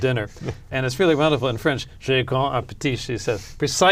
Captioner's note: speaking french